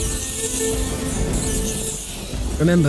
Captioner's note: rats squealing